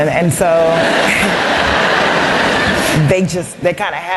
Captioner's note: laughter